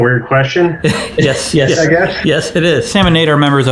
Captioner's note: laughs